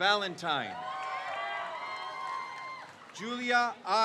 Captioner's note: crowd cheers